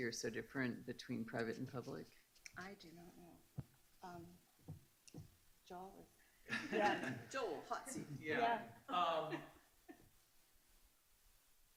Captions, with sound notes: between private and public? - I do not know, Joel? (laughing) - Joel, hot seat! - Yeah!